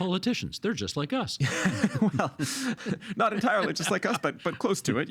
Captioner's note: laughing